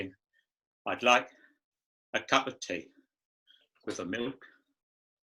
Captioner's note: voice breaking